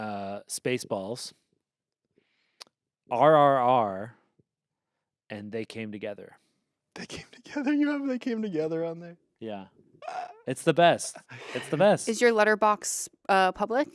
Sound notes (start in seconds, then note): 7.0 laughs